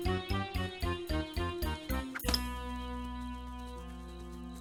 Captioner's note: clink